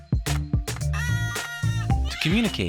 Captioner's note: macaws calling